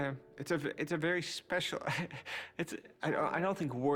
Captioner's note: chuckles